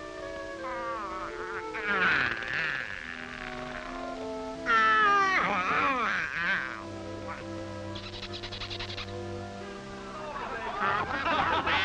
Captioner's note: Donald Duck yawning; the audience laughs